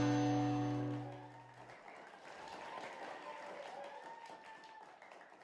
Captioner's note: crowd faintly cheering